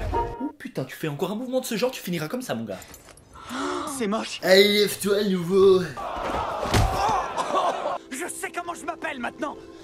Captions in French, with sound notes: Oh putain, tu fais encore un mouvement de ce genre tu finiras comme ça mon gars. [Bruit de surprise] "C'est moche !" Allez lève toi le nouveau ! [Cri de douleur] "Je sais comment je m'appelle maintenant !